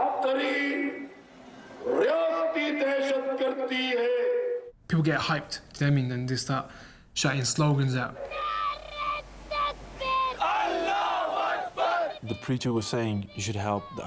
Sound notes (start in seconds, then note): 8.9 shouting in native language